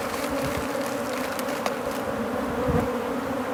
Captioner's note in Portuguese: Zumbido de abelha